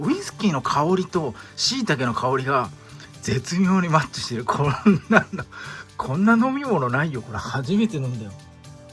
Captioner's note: laughs